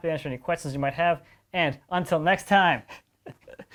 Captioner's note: laughs